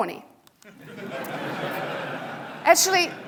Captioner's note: audience laughing